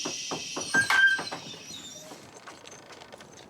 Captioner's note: dog cries